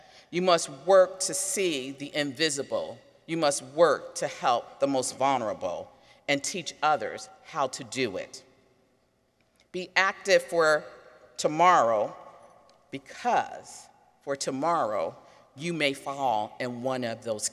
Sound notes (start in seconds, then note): none